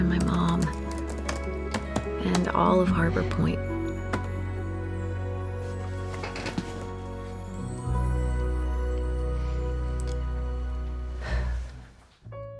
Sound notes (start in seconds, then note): 11.2 sighs